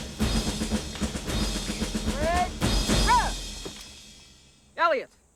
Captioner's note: shouts Command